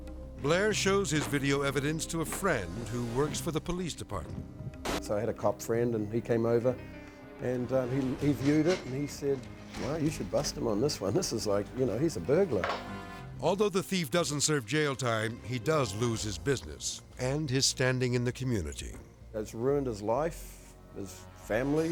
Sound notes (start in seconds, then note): 4.8 TV static; 12.5 edgy dramatic music